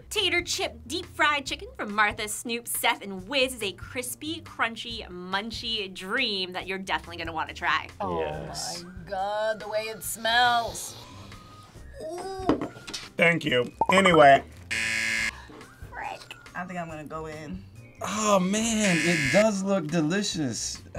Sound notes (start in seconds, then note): 14.7 buzzer rings